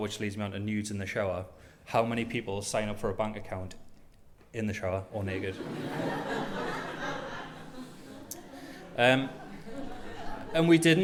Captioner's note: laughter